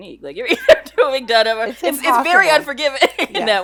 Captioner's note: laughing